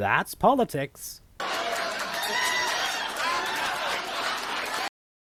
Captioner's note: raucous laughter that is cut short